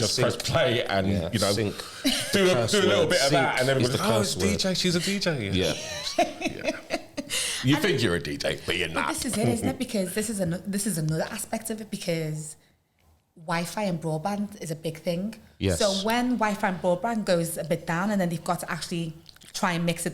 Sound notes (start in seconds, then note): 5.5 laughter